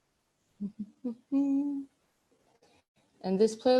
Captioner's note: humming